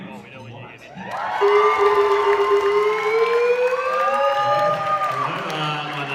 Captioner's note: defibrillator charging sounds